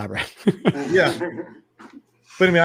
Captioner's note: all laughing